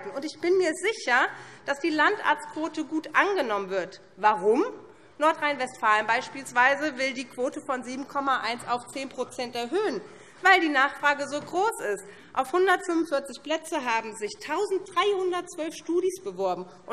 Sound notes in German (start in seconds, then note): none